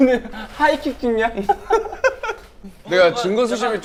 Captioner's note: haha